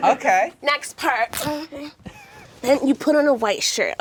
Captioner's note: tearing sound